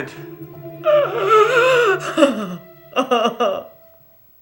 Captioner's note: sobbing